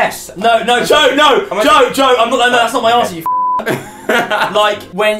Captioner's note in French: rire